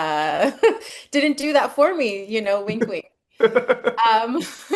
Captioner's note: laughs